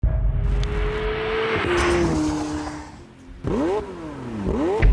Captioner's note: dramatic music; car engine revving